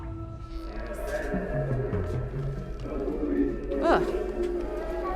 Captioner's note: distorted speaking